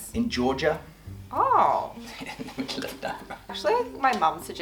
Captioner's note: laughing